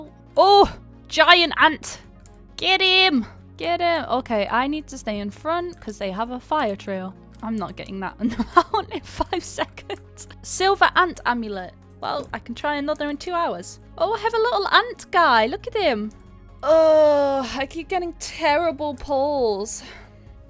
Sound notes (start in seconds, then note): 8.2 laughs